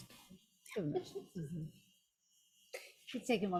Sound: speaks faintly

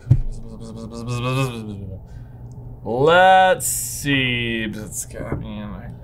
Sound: buzzes

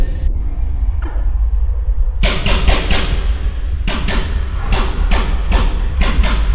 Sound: tinnitus roars; gunfire pounds

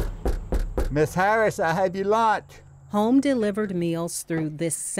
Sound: knocking

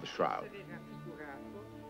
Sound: speaking in Italian

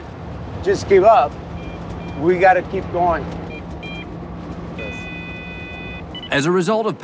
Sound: breathalyzer beeping

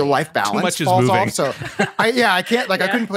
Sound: laughter

